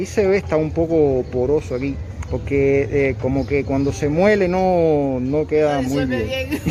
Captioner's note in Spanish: risas